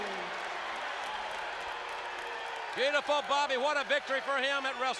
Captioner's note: applause